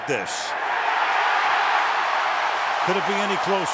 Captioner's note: cheering